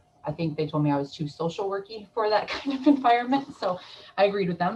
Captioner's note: chuckles